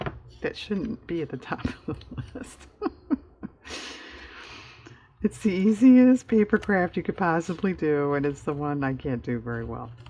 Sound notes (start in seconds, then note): 4.3 laughs